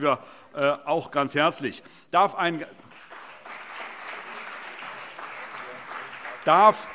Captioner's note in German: Allgemeiner Beifall